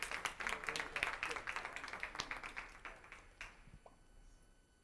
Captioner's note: applause